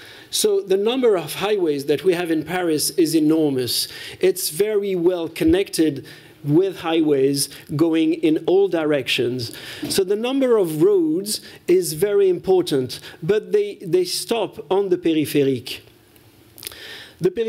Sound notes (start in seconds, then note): none